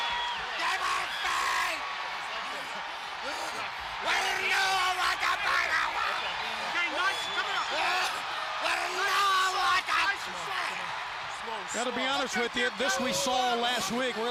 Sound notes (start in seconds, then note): 0.2 crowd cheering; 2.0 crowd chatter